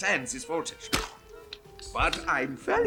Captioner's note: splats